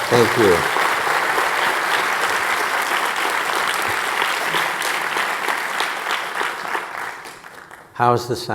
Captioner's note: audience applauding